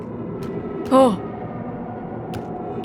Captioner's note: shudder